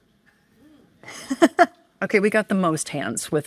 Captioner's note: laughing